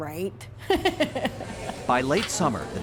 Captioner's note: laughter